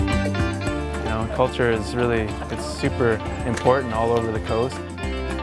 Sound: voiceover

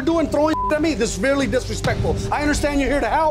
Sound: beeping

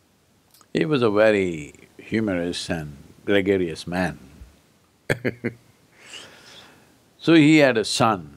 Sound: laughs

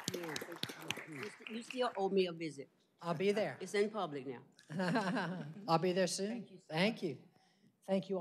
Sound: applause

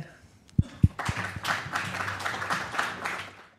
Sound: applause

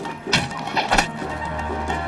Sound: arrow striking

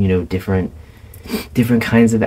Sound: sniff

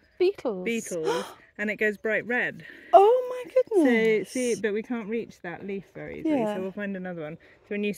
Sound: gasp

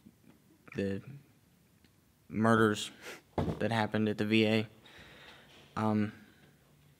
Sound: scoffs

